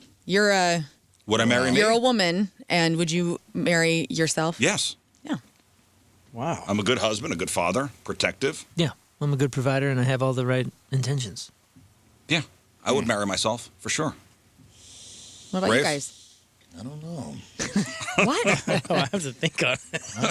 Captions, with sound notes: You're a woman and would you marry yourself? Yes. Yeah. Wow. I'm a good husband, a good father, protective. Yeah, I'm a good provider and I have all the right intentions. Yeah, I would marry myself for sure. What about you guys? I don't know. (laughing) What? I don't have to think of it.